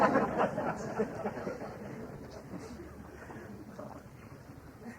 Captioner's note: laughter